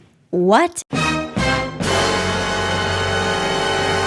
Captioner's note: exclamation